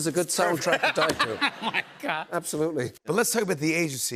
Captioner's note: laughs